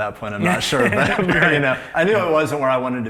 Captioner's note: laughs